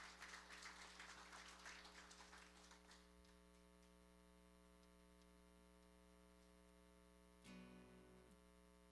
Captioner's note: applause